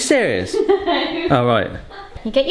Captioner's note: laughs